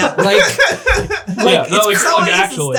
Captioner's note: laughing